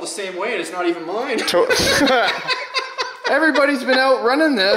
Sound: laughs

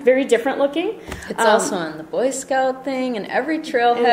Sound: voiceover

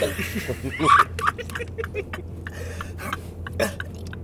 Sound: laughs

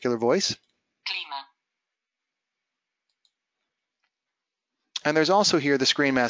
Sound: speaking foreign language

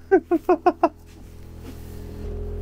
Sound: laughing

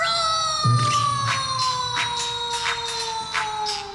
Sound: rhythmic Clapping

